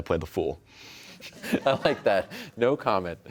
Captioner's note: laughter